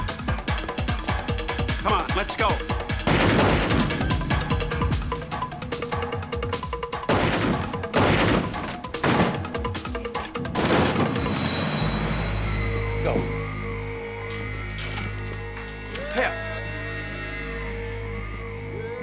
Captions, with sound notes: - Come on. Let's go. (two gunshots) (gunshot) - Go. - It's Pep.